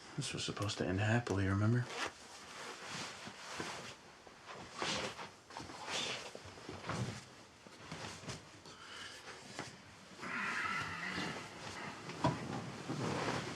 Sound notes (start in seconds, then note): 3.7 clothing rustles; 10.3 Isaac groans